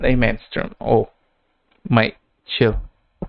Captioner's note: bonk